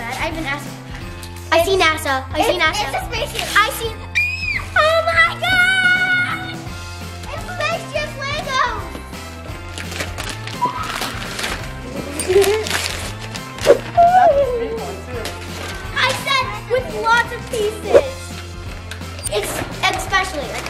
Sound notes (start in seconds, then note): 4.1 screaming; 9.0 happy holiday music; 9.7 paper crinkling; 11.8 cooing